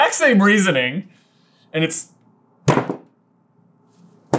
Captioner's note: thud